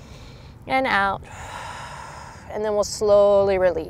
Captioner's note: blows out breath; takes deep breath